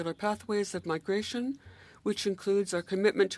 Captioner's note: speaking French